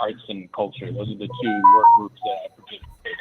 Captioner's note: beeping tones drown out voice